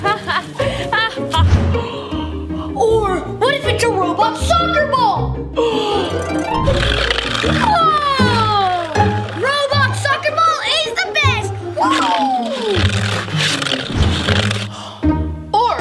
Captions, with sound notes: - Or what if it's a robot soccer ball? (gasps) (harp music) Whoa! Robot soccer ball is the best, woo!